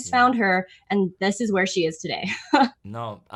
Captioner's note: chuckles